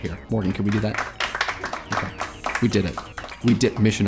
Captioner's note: applause